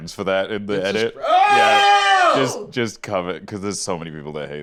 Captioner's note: scream